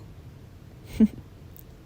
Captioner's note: chortles